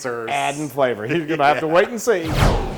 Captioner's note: laugh